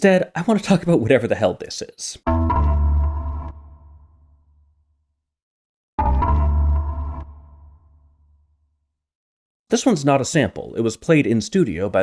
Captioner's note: bang